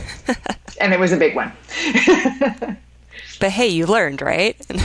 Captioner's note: woman laughs; laughs